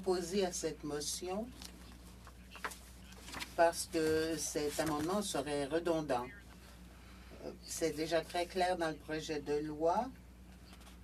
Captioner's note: speaking French